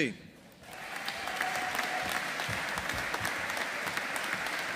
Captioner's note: audience applauding